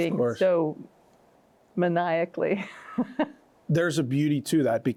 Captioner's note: laughs